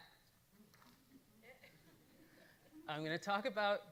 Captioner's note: audience laughing